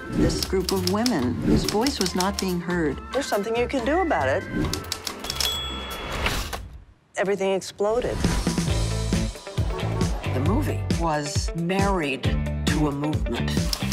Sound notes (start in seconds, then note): 4.8 typewriter ticking; 5.4 bell dinging; 8.0 upbeat music; 13.7 typewriter ticking